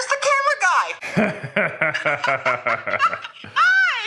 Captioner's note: laughing